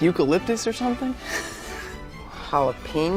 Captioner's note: laughing